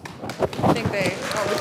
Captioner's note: class applauding